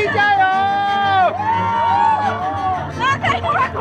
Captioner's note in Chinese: 來自現場看好戲的歡呼聲